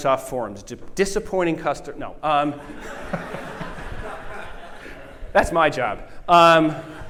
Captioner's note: laughter